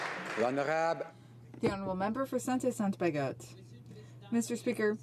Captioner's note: some Applause